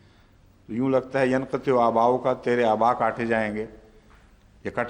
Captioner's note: Arabic